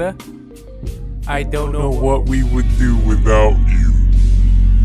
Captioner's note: voice and music progressively lowers in speed & pitch; ominous Low Hum